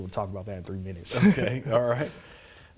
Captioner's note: chuckles